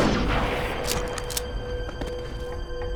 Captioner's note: suspense music; fires gunshot, cocks rifle again